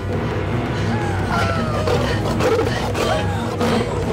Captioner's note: Growling Continues